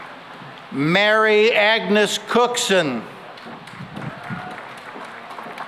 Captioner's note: applause